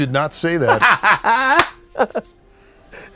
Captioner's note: laughs